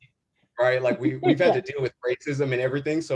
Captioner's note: chuckles